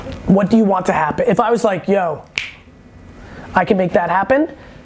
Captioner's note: snapping